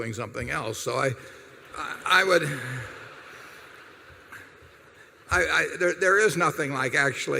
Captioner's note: laughter